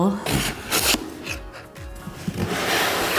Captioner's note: package tape tearing; cardboard rubbing